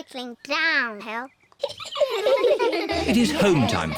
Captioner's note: all giggle